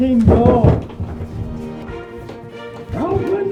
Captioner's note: banging